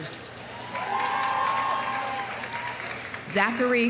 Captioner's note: audience cheering; audience applauding